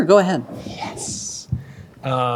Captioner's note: quietly